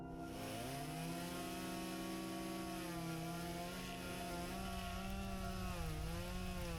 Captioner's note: chainsaw buzzing